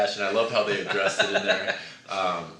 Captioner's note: laughs